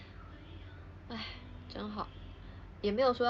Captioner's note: sighs